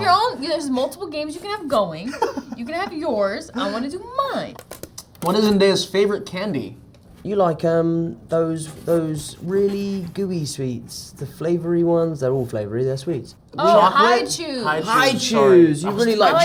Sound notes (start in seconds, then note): 2.1 Jacob laughing